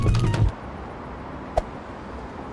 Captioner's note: whoosh